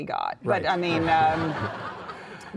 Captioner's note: audience laughing